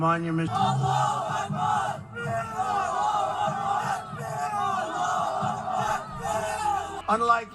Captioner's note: crowd chanting Allahu Akbar